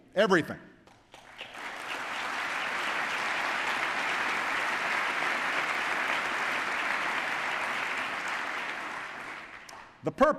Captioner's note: applause